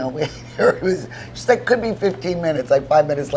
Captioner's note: laughs